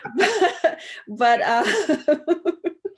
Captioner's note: laughs